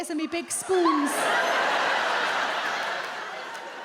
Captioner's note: audience laughs